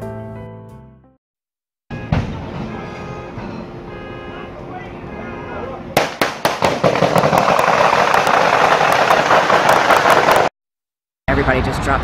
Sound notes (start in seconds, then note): 4.5 car horns honking; 8.7 gunshots firing